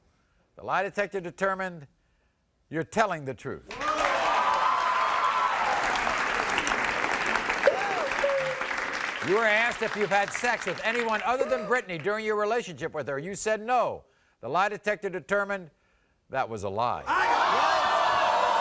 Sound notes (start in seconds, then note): 3.7 audience cheering; 7.6 sobbing; 16.8 audience gasping